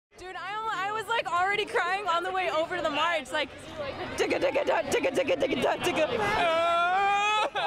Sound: mimics drums and crying

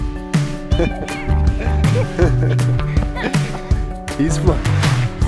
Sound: bright music; laughing

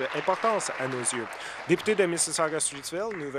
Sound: applause

